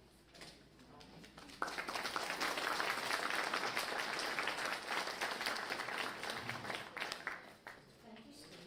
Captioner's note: applause